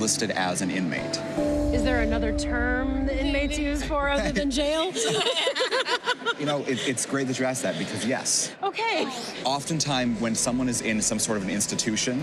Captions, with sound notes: or relationship to the head of household is listed as an inmate. Is there another term they may choose for her other than jail? (laughter) You know, it's great that you asked that, because yes. Okay.